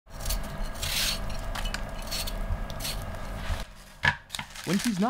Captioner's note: peeling vegetables